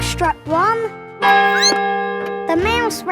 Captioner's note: squeaks; clock chimes